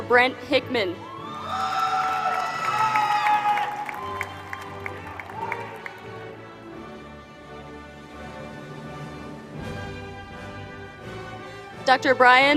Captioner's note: applause